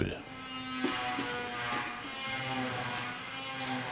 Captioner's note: sawing in the background